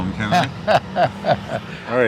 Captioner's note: laughs